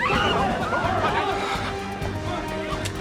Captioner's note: all scream and exclaim